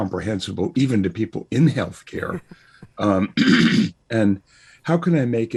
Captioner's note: laughs